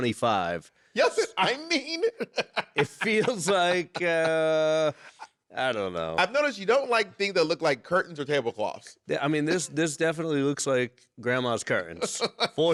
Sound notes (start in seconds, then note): 1.0 laughing